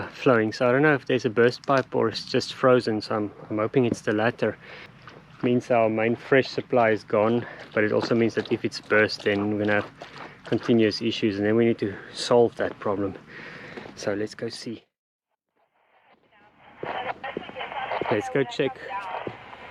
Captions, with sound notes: flowing. I don't know if there's a burst pipe or if it is frozen, so I am hoping that it's the latter. It means that our main, fresh supply is gone It also means that if it's burst, we're going to have continuous issues. We're going to need to solve that problem. Let's go see *neighbours radio chatter* Let's go check